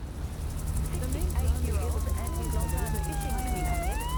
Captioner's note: mixed news reports and sirens